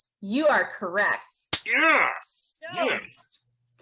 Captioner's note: cheers, Yes